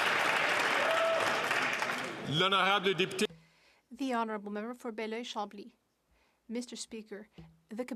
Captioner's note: some Applause